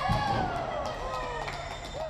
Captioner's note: cheering